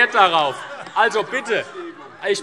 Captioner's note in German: Heiterkeit